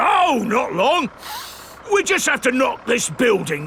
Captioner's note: sniffs